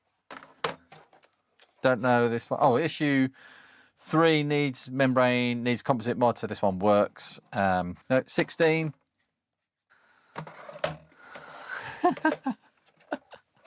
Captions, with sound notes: Don't know this one. Oh, issue three needs membrane, needs composite mod so this one works. No, 16. (Laughs)